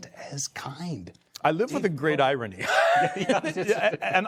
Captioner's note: chuckling